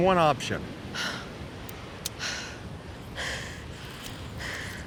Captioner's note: Rebecca panting